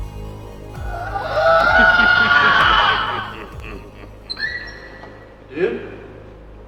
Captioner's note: X Knight laughing; man wailing